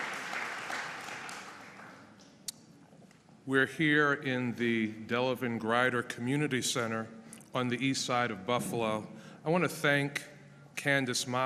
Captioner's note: applause